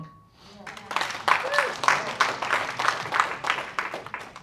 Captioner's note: applause